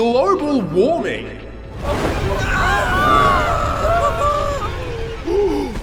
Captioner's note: screaming; gasp